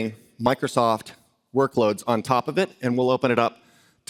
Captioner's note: none